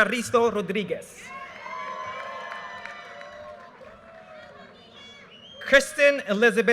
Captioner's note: audience cheers and applause